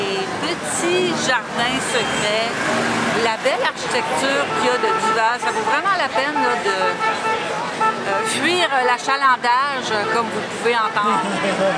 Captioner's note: laughs